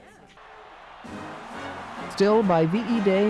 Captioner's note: crowd cheering